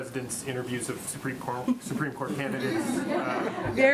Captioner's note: laughter